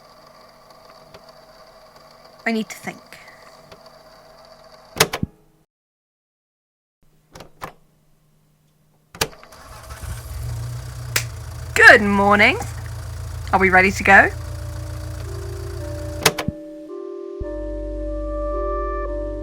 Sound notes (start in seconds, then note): 11.1 claps; 11.1 click; 11.8 car idling